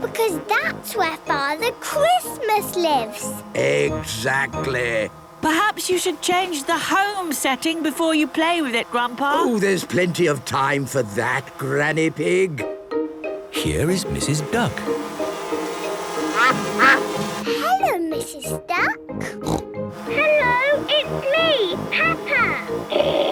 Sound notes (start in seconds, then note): 16.4 quacking; 19.2 snorting